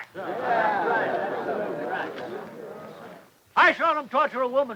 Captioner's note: townsfolk murmur